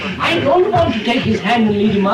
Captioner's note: laughter